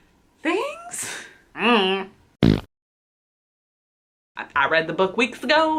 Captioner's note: fart noise